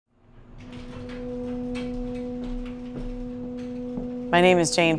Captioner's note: elevator door clanking